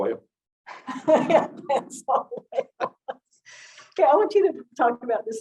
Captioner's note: giggling lightly